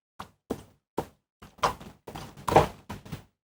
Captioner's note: footsteps